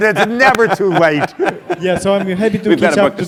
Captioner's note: laugh